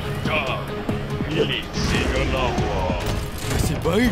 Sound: lion roars

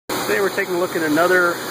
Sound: voiceover

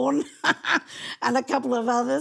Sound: laughing

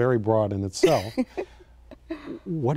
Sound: laughs

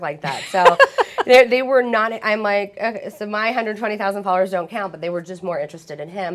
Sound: laughter; laughing

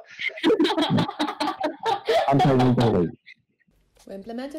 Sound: laughing

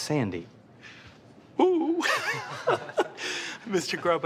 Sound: laughs

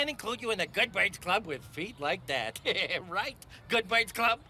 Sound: laughs

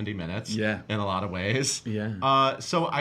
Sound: laughs

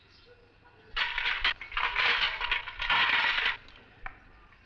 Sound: pram rattles

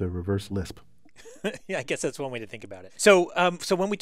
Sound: laugh

